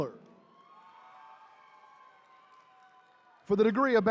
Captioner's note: attendees cheering